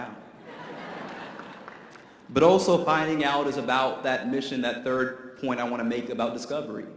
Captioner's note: audience laughter